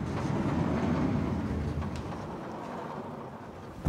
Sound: door opening

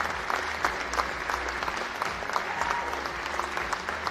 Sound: cheering and Applause

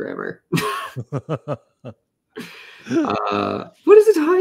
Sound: laughter

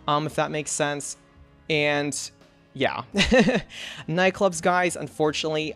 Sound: laughs

